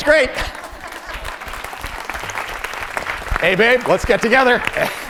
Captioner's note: applause